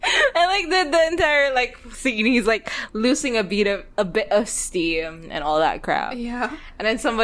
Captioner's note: laughs